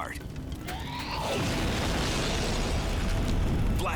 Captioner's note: explosion booming